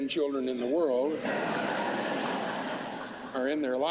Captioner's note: laughter